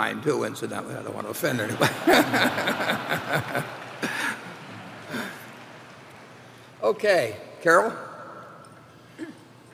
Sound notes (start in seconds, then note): 1.5 laughter